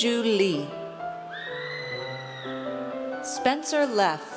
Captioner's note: audience cheers